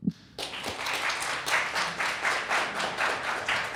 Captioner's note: applause